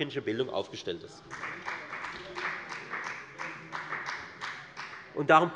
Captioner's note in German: Beifall der Abg